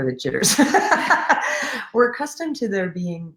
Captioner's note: laughing